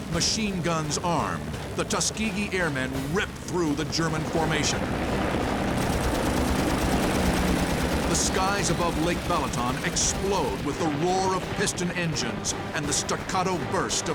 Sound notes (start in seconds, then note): 5.6 guns firing